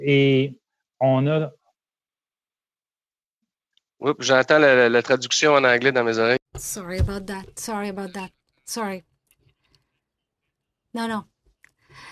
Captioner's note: speaking French